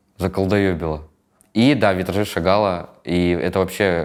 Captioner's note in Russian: none